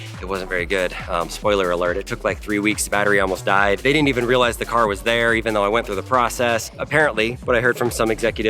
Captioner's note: none